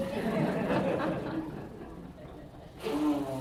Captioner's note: laughter